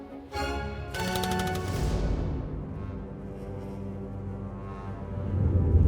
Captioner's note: tense suspenseful music; text clicking